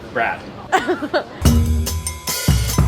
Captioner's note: laughs; upbeat jazzy music